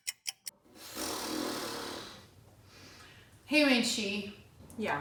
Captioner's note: timer ticking; blows raspberry